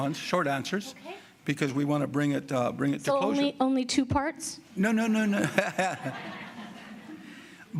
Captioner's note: laughter